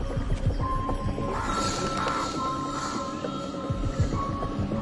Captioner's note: bird caws